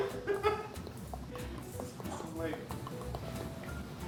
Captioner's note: teeth chattering